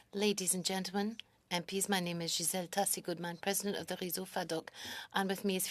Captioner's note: speaking French